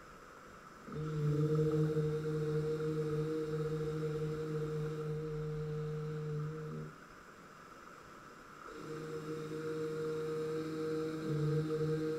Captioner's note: soft humming